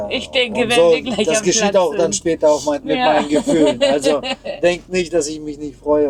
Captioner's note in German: gelächter